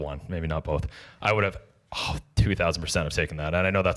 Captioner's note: exhales